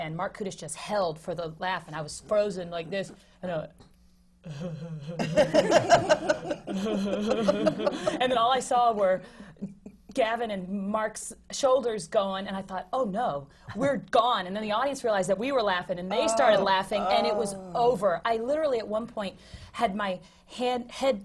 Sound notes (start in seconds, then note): 4.6 laughs; 5.1 laughter